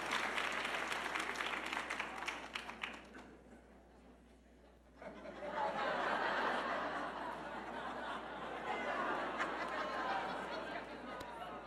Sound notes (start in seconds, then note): 5.0 audience laughing